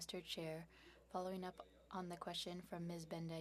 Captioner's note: speaking French